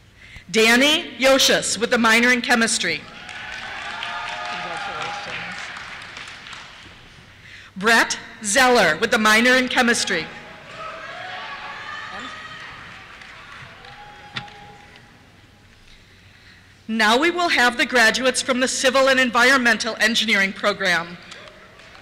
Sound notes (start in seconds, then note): 3.0 cheers; 9.8 cheers